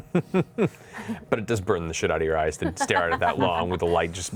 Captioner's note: laughs